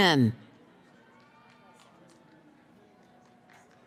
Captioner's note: cheering